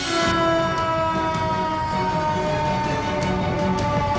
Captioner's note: sirens wail